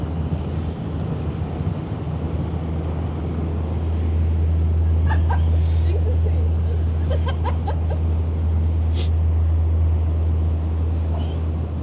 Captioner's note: she laughs